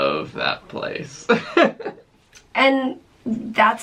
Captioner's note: chuckling